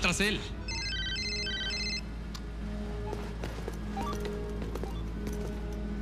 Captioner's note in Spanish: Suena el radio